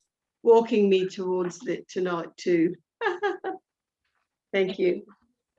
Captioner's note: laughing